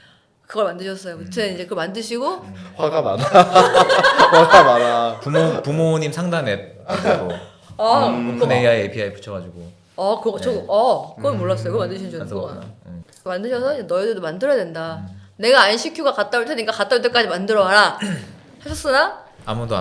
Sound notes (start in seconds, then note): 2.3 ha ha